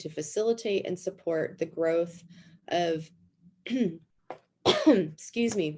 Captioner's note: coughs